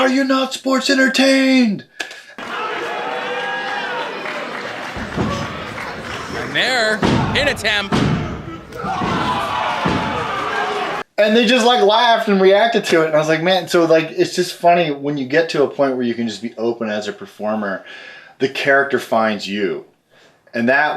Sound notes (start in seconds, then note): 2.4 crowd shouting